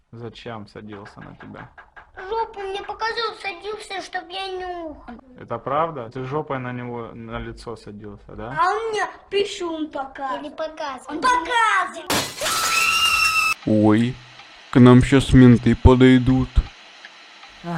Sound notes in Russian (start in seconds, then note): 12.3 начинают кричать